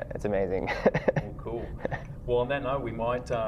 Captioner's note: laughs